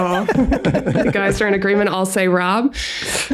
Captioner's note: all chuckle